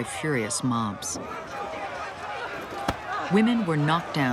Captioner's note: people shouting